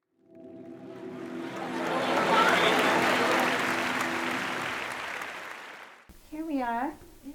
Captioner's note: sound of applause fades in, and then, out